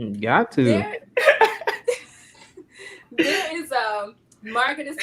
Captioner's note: laughing